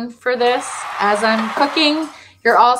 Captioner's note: crowd cheers